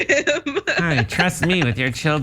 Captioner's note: laugh